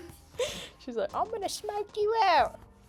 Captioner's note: very bad tracer falsetto slightly more cockney